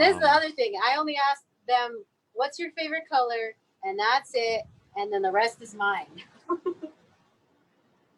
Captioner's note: laughs; laughs